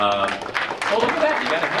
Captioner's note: audience applauding